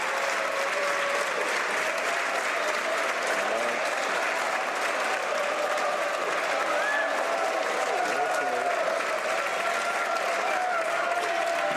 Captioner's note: some Applause